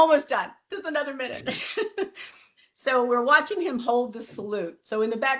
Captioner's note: laughs